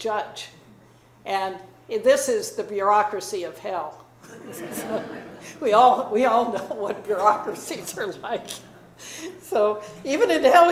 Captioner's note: laughing